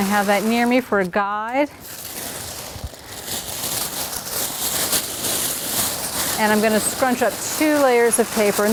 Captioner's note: paper rustling